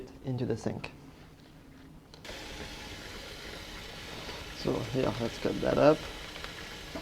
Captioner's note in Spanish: agua corriendo